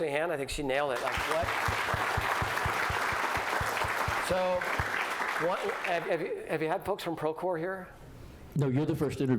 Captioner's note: applause